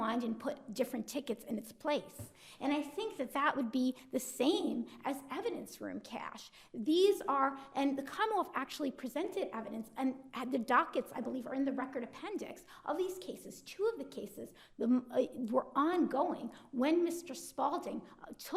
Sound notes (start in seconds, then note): none